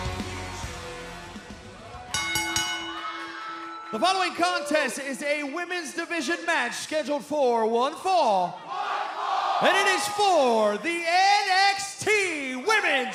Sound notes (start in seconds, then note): 2.1 bell ringing